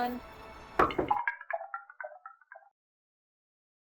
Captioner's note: knock on window